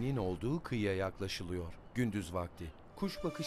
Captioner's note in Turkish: Martı sesi